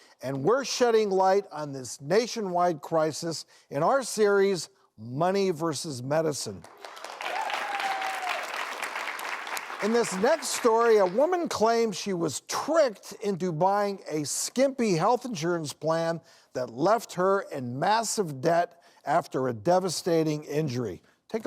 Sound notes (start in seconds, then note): 6.6 clapping